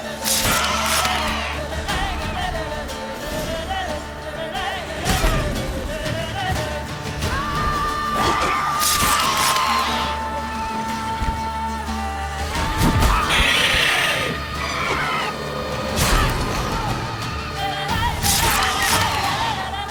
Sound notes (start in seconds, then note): 0.1 harpy shrieks; 8.8 harpy shrieks; 14.0 screech; 18.2 harpy shrieks